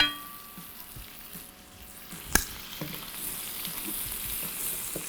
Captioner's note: faint sizzling